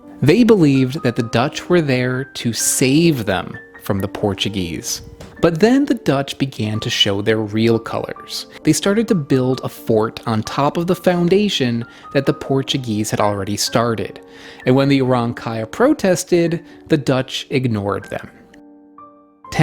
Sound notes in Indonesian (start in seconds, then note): none